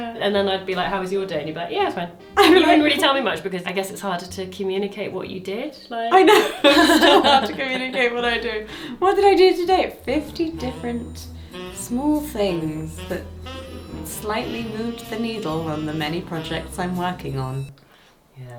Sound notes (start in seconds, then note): 6.1 laughs